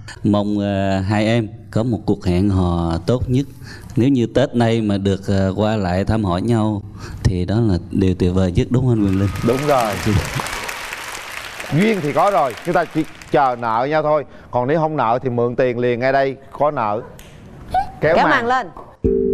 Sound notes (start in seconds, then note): 8.9 audience applause